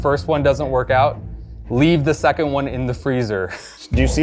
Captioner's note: laughs